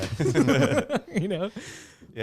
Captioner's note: laughing